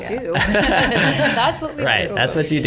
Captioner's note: laughter